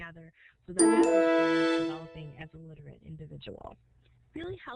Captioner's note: computer chimes